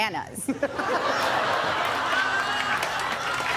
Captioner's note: laughter; applause